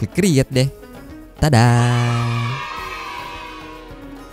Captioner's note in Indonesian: suara kegembiraan